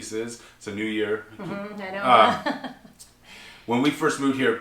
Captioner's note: laughs